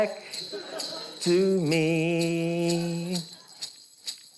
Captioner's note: bells jingle